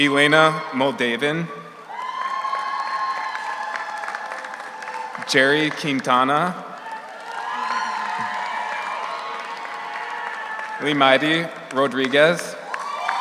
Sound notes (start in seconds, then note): 0.0 audience applauds; 0.0 audience cheers; 2.3 audience applauds; 2.3 audience cheers; 7.2 audience applauds; 7.2 audience cheers